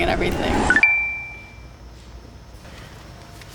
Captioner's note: chime